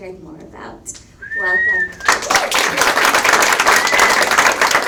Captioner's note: audience applauds